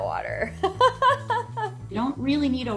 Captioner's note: laughs